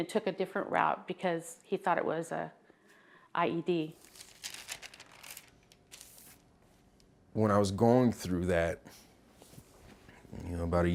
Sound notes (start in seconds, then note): 4.0 rustling